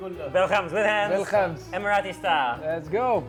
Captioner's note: man speaking in foreign language; speaking in foreign language